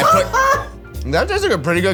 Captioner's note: judges laughs